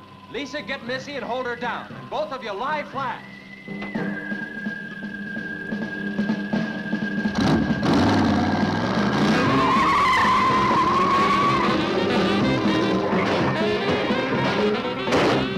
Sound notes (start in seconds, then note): 9.1 tires screeching; 11.6 upbeat music